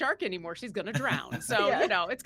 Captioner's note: laughing